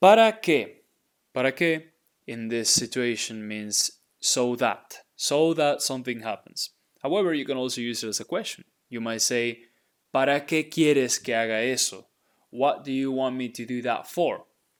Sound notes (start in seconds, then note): 0.1 speaking in Spanish; 10.1 speaking in Spanish